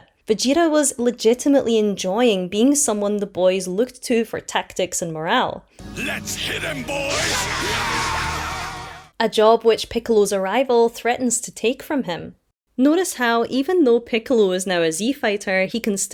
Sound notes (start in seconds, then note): 5.8 all: *yelling